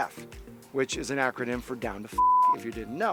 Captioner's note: beep